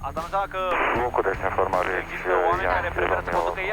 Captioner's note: radio chatter